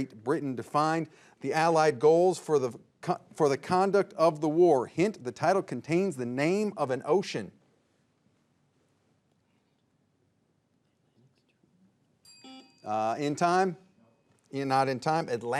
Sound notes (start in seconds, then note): 12.2 bell dings; 12.3 signal beeps